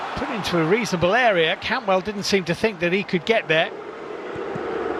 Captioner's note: audience oohs